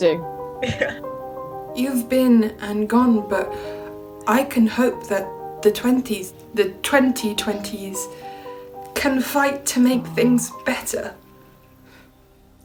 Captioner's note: Sketch audio plays